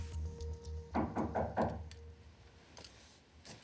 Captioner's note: knock at front door